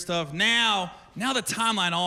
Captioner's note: none